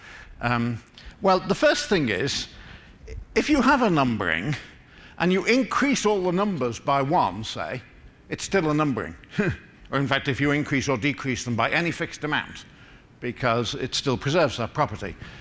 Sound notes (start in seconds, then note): none